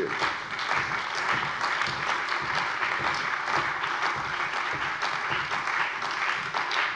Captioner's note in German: Beifall bei der CDU und dem BÜNDNIS 90/DIE GRÜNEN